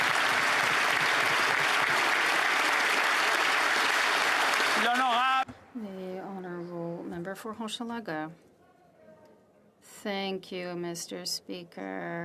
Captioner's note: applause